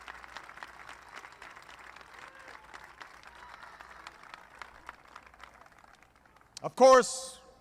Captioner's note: applause